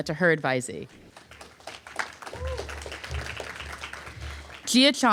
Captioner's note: applause